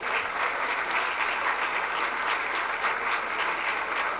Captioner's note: applause